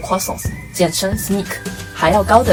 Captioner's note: in french